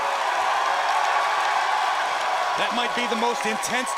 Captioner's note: crowd cheering